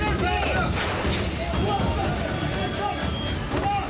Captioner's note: glass shattering